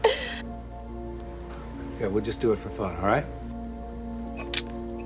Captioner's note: Brenda chuckles